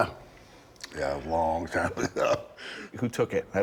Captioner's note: laughing